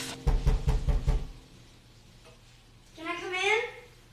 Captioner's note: Julie knocking on the door